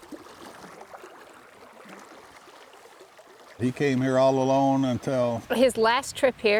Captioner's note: fish splashing in the water